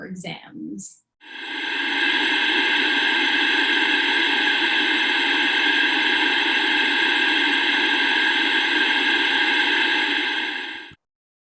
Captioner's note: Static